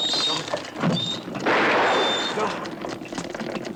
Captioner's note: gun fires; clocks ticking